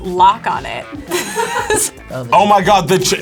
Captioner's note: both laugh